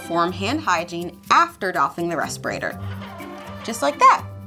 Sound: dispenser screeches

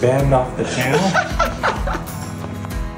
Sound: laughing

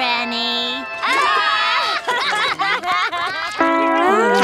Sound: laughing

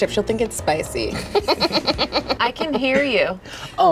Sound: laughing

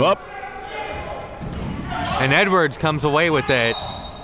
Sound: whistle blows

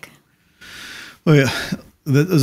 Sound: sighs

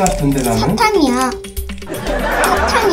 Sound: laughing

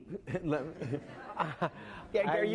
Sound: laughing

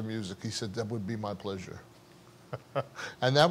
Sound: laughs

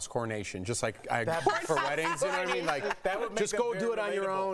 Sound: laughter

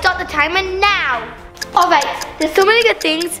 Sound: timer clicks

